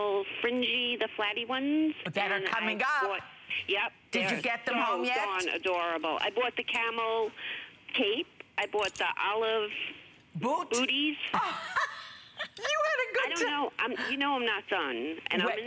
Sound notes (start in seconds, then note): 11.4 laughter